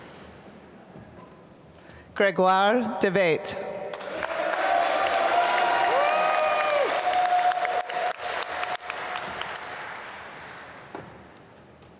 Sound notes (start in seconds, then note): 3.9 applause